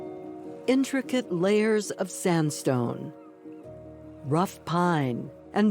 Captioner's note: peaceful, flowing piano; bird calling